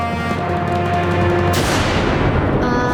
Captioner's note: thundering